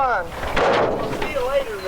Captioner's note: trunk thumping